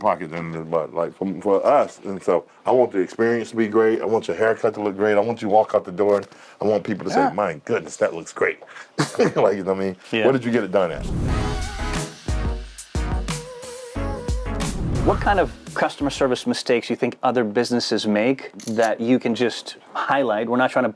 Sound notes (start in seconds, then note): 8.9 chuckling; 10.9 upbeat music